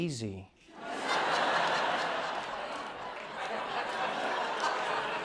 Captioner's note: laughter